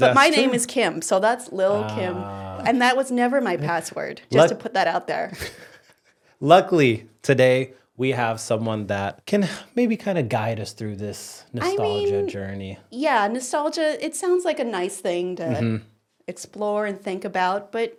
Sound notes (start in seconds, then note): 5.3 laughing